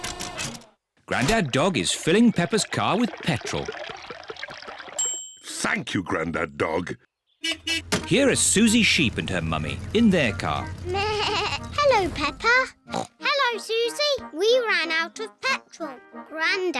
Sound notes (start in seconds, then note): 5.0 bell dings; 7.4 horn beeps; 11.4 bleats; 12.9 snorts